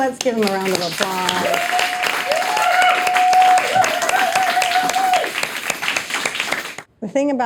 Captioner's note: audience applauding, cheering